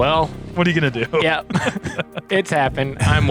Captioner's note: chuckles